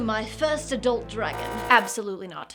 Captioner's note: buzzer